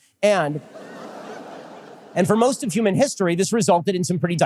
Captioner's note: audience laughter